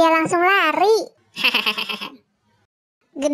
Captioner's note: sound laugh